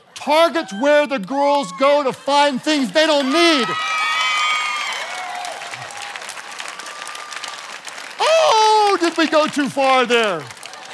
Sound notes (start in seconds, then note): 4.0 congregation cheering